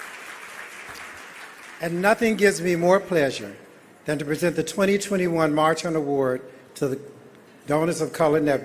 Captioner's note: applause